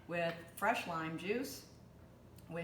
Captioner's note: none